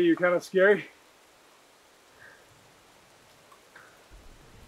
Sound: rain trickling in distance

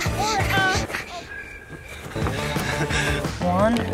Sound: crickets chirping

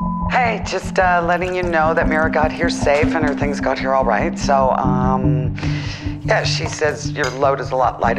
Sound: voicemail beep

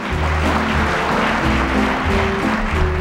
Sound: audience applauding

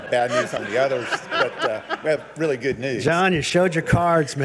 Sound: all laughing

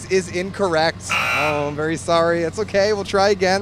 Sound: buzzer

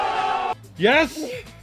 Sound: crowd cheering

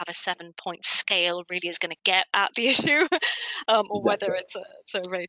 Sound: laughs

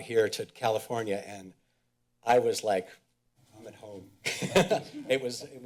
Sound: laughs

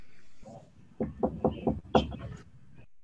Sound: knocking on door

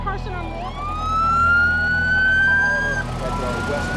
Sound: sirens wailing

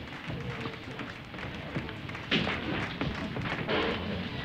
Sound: clapping

